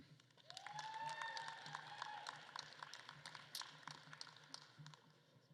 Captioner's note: attendees cheering and applauding